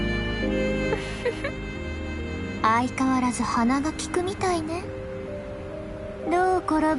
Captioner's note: giggle